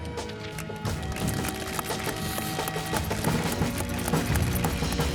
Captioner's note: audience applauding